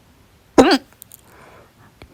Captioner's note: hic!